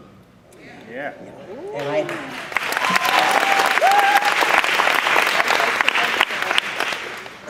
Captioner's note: applause